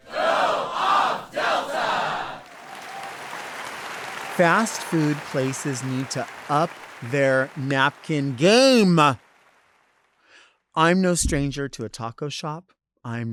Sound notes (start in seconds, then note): 2.7 audience applauding